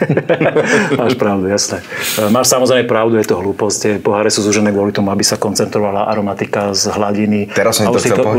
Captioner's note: laughs